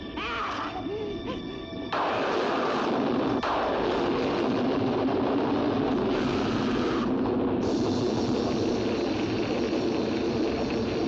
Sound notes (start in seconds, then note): 0.1 screeching; 1.9 loud thunder and lightning; 6.1 sizzling and screaming; 7.5 fire crackling